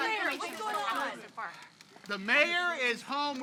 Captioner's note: reporters clamoring